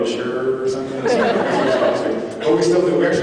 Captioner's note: laughs